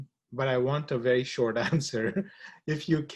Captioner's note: laughs